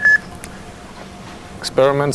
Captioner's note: tone beeps